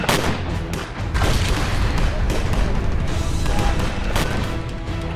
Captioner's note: explosion bang